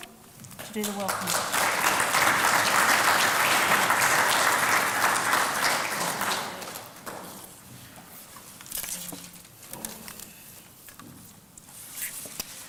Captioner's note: applause